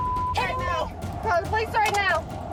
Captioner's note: driver grunting